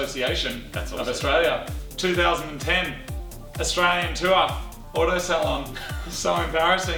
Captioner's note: laughs